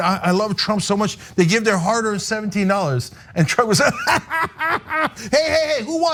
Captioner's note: laugh